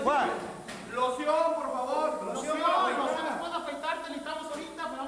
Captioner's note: wrestlers speaking in Spanish